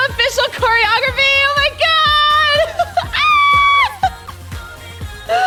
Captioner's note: exclaims; gasps